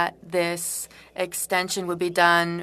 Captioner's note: speaking French